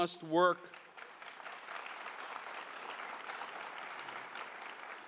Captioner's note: audience applauds